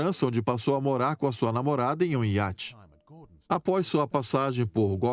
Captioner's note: voiceover